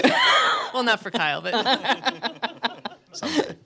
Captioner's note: laughs